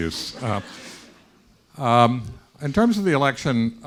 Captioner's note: students laughing